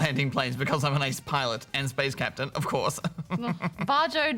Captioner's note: laughs